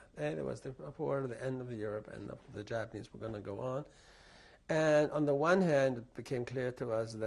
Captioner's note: none